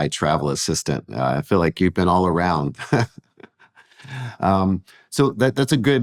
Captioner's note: chuckles